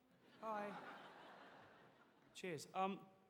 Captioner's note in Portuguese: audience laughing